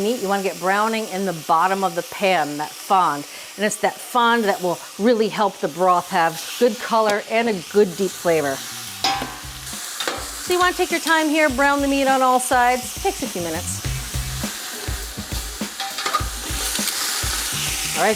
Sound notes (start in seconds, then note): 9.0 metal clanging; 14.2 light music; 14.2 meat continues sizzling